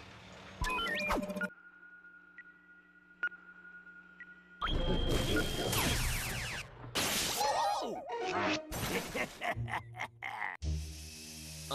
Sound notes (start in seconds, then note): 0.6 beeping; 8.8 laughing maliciously